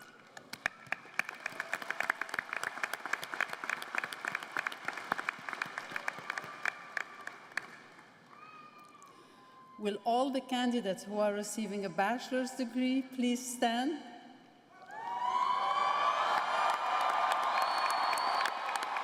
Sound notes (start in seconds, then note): 7.2 applause